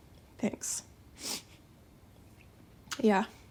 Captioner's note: sniffs